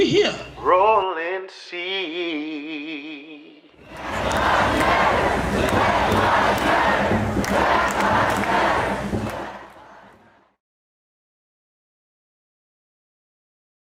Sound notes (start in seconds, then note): 3.7 crowd